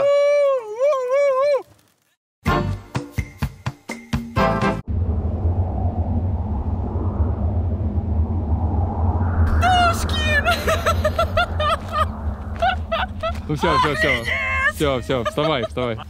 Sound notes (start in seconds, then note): 0.1 howls; 5.3 wind blowing; 10.2 girl laughs